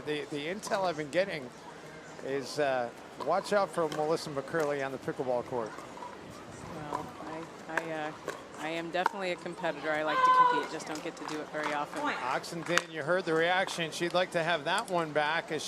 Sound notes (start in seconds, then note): 11.0 yells